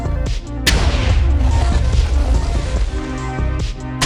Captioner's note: explosion sounds